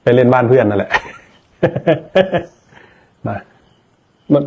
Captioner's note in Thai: เสียงหัวเราะ